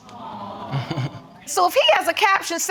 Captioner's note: chuckling